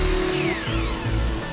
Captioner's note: construction sounds